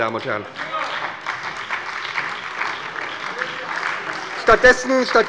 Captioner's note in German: Beifall bei der SPD